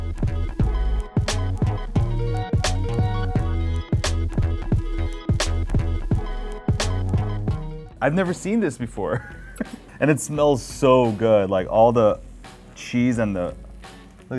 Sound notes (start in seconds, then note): 0.3 upbeat music; 9.1 chuckles